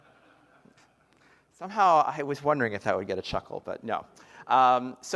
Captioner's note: laughter